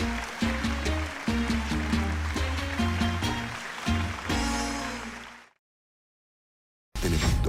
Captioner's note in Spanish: Aplausos